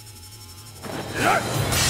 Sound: grunting

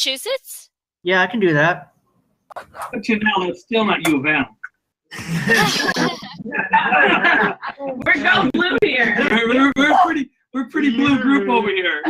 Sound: group laughs

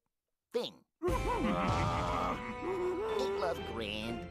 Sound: both grunting

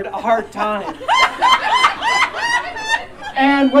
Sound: audience Laughing

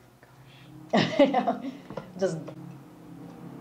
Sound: laughs

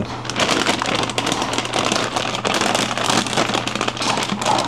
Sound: bag crinkling

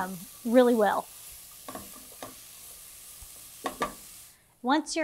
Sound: mixture sizzling

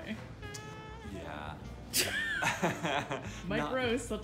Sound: laughing

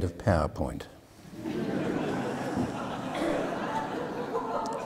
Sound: audience laughing

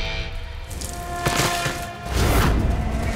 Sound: fire crackling

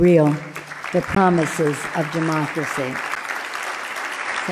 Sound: loud clapping

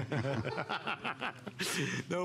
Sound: laughter

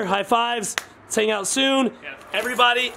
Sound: hands slap

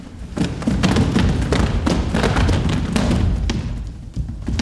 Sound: shuffling and thumping

